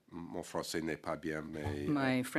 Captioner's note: speaking French